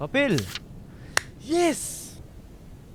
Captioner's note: claps